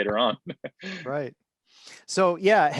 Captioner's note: chuckles